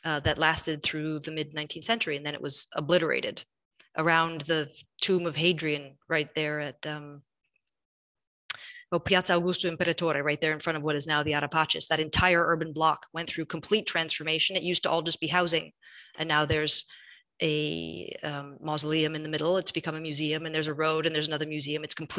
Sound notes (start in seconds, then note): 7.8 speaks in foreign language